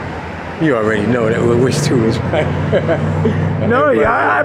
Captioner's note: laughs